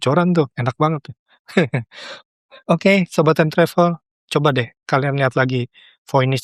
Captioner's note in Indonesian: tertawa